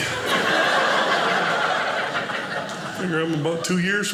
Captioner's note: audience laughing